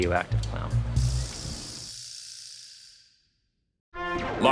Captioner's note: snap rattle rattles